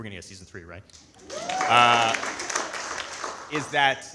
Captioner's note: audience applauding